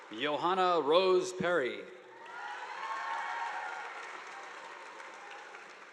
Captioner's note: audience applauding